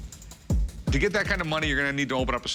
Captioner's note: none